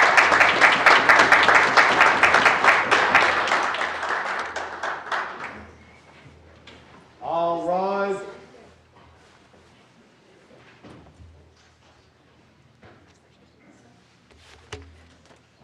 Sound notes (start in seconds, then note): 0.0 applause